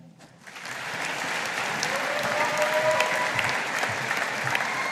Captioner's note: audience applauding